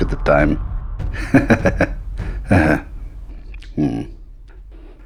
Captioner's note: awkward Laugh